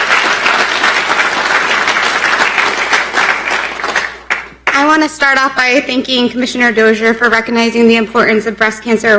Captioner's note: applause